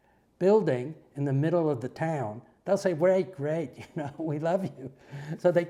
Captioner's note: laugh